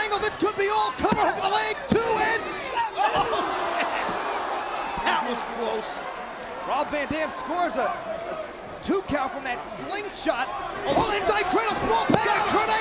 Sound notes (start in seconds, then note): 1.0 mat slapping; 3.0 laughs